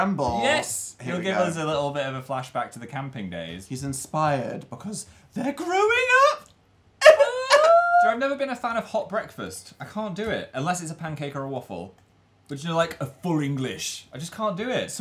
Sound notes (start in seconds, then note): 7.0 crying